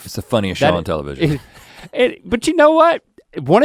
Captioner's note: both laughing